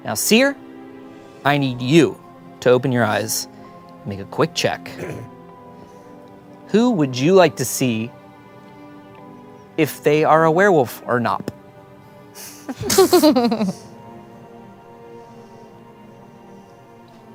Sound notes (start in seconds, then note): 12.7 laughs